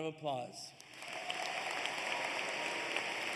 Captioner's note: applause